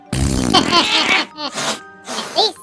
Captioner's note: laughing